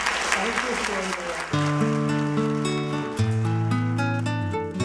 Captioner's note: applause